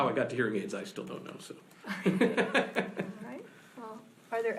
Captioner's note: laughs